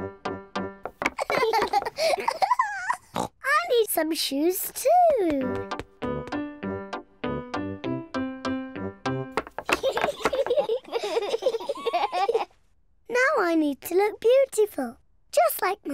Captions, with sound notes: (BOTH LAUGHING) (OINKS) I need some shoes, too! (BOTH LAUGHING) Now I need to look beautiful, just like Mummy.